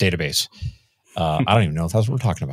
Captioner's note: chuckling